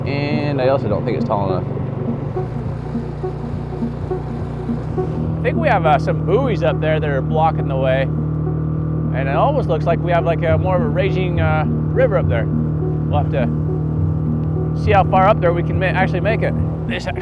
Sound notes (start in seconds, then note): 2.0 engine buzzing; 2.0 suspenseful music